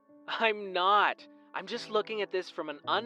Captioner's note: phone vo